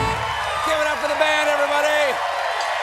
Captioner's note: cheers and applause